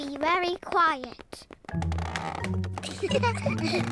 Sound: floorboards creak; all giggle

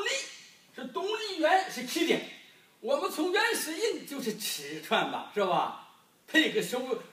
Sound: none

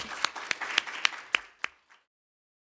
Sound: applause

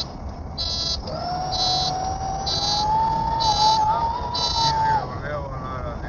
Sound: sound Of Landing Gear Extending

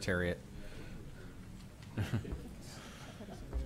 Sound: laughter

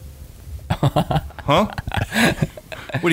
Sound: laughing

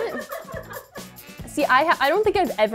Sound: laughter

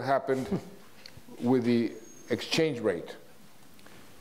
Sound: chuckles

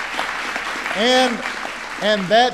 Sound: applause

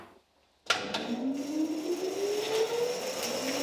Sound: engine noise

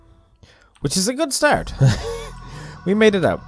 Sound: chuckle

